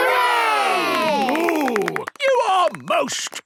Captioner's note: applause